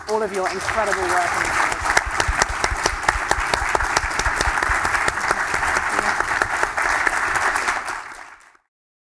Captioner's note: applause